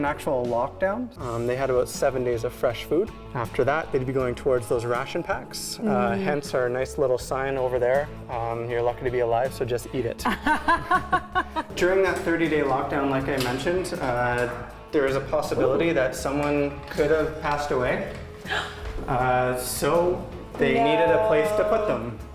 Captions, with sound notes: >> DURING AN ACTUAL LOCKDOWN THEY HAD ABOUT SEVEN DAYS OF FRESH FOOD. AFTER THAT IT WOULD BE GOING TOWARDS THOSE RATION PACKS. HENCE OUR NICE LITTLE SIGN OVER THERE. "YOU'RE LUCKY TO BE ALIVE SO... JUST EAT IT." (Laughing) DURING THAT 30 DAY LOCKDOWN, LIKE I MENTIONED, THERE IS A POSSIBILITY THAT SOMEONE COULD HAVE PASSED AWAY. SO THEY NEEDED A PLACE TO PUT THEM.